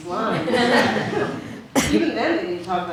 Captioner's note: audience laughs